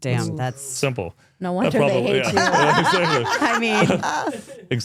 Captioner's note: speaker laughs